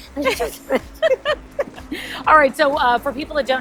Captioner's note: laughing